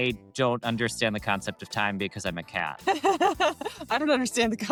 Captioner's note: laughs